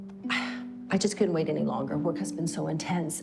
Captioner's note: sighing